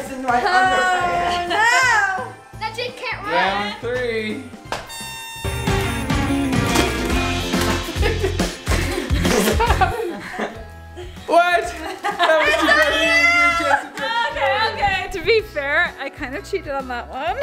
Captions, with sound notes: - There's some ice in my underpants. - I bet you can't run. - Round three. (upbeat music) (box thudding) (family laughing) - Stop. - What? (family cross chattering) - Okay, okay to be fair, I kind of cheated on that one.